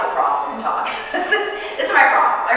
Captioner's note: chuckling